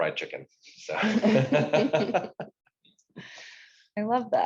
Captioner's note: participants laugh